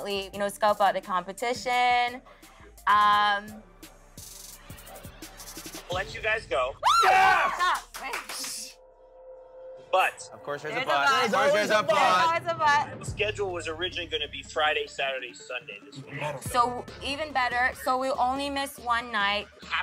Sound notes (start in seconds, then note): 6.8 cheers